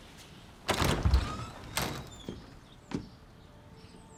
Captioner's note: door creaks